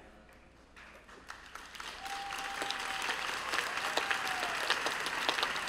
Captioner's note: applause